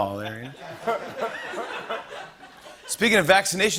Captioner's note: laughter